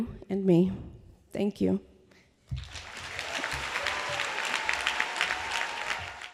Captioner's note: applause